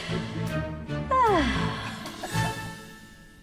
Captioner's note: sighs